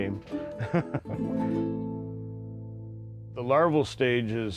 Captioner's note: laughs